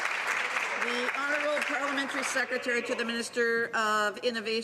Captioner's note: some Applause